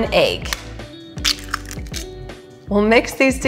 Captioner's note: egg cracking